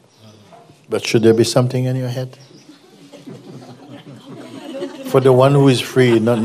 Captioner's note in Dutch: gelach